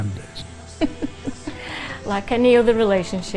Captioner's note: laughs